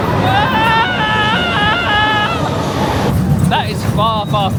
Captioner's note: screams; coaster rumbling